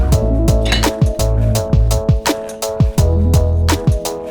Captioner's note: metal clanks